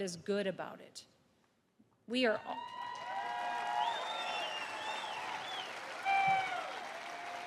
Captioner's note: applause